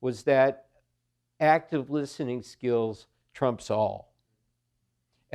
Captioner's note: none